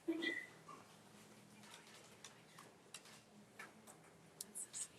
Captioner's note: camera click